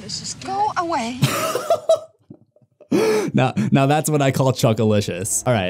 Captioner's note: laughter